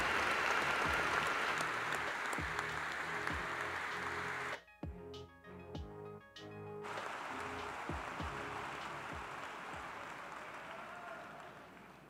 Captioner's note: applause